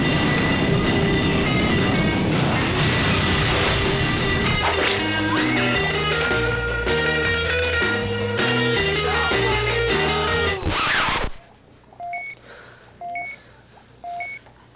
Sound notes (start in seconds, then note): 5.4 screams; 13.0 beeping